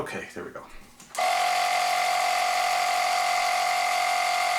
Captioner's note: buzzing